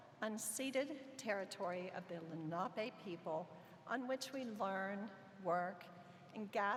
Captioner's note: none